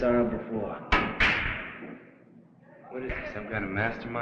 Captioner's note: billiard balls clacking